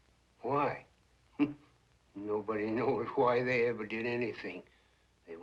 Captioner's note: laughs